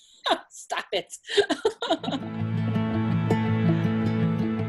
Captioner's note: laughs